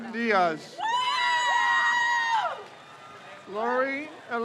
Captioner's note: crowd cheers